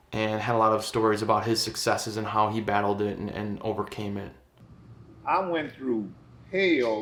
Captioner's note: none